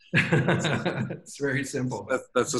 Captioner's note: laughing